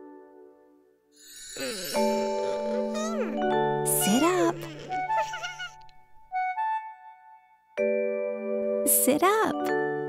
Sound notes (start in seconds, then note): 3.8 giggling